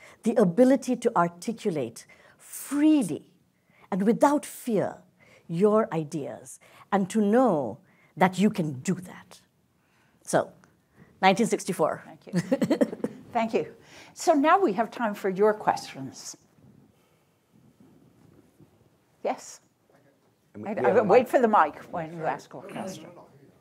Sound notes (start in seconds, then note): 11.0 chuckles